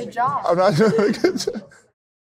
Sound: laughs

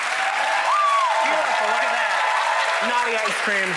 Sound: audience cheers

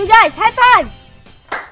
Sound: clap

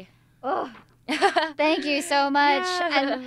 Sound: grunts

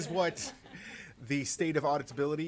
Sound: laughter

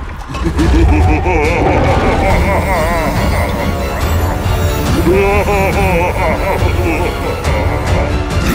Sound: laughs manically

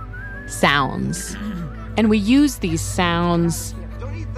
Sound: ARCHIVE CLIP: Whistling; ARCHIVE CLIP: Person clearing throat

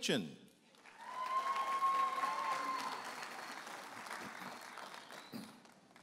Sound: audience applauding and cheering

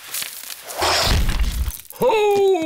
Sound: thuds

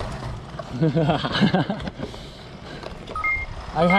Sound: laughs

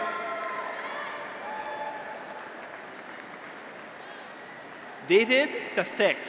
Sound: graduates cheer; audience applauds

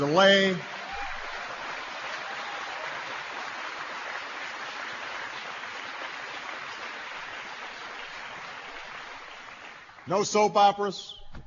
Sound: applause

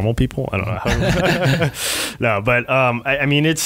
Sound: laughing

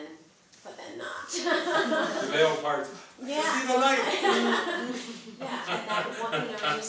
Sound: laughter

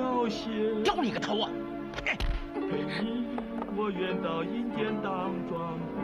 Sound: speaking foreign language

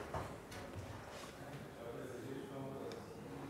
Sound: quiet conversations in the background

